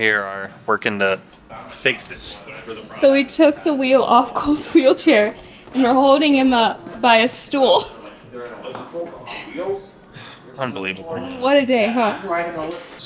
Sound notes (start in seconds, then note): 8.7 people chattering